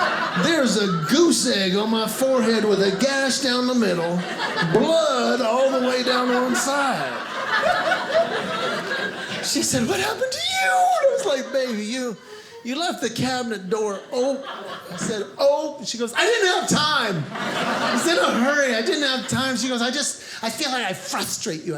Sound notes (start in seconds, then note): 7.2 audience laughing; 16.2 audience laughing